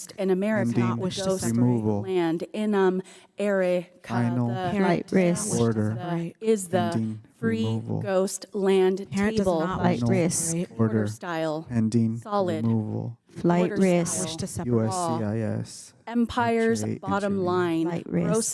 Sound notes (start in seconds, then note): none